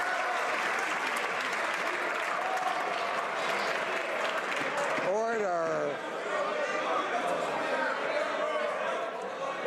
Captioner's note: some Applause